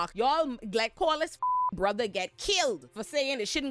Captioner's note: beep